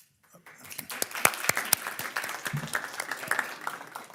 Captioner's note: people applauding